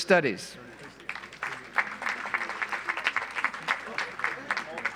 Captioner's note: audience applauds